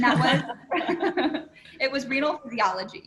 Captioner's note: laughter